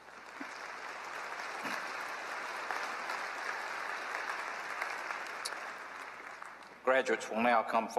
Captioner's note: applause